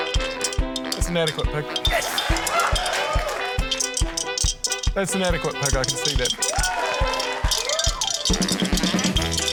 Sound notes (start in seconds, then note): 2.0 cheering; 3.7 coins rattle; 6.5 cheering